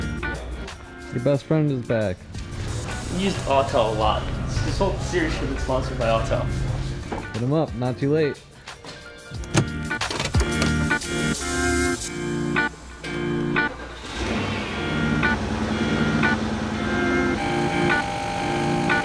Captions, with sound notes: - Your best friend is back. - You use Alltel a lot. This whole series should have been sponsored by Alltel. - Not too late. (machines whirring) (upbeat music)